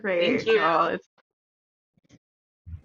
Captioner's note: lots of agreeable chatter